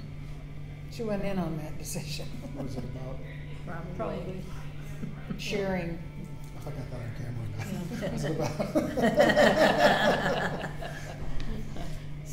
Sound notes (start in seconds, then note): 7.6 all laughing